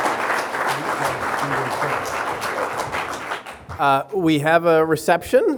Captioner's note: everyone clapping